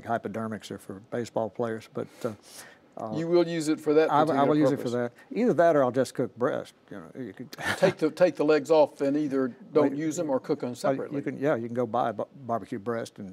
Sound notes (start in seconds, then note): 7.6 laughs